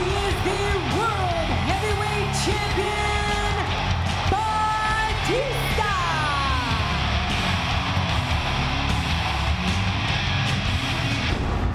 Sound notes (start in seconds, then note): 6.8 crowd cheers